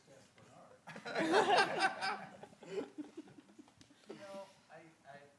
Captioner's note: audience laughing